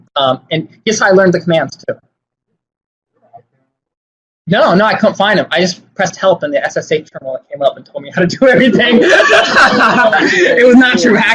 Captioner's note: laughing